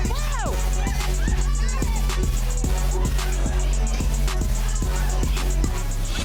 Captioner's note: group cheering